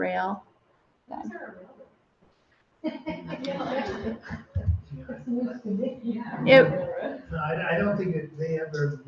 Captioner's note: laughter